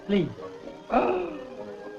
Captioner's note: gasps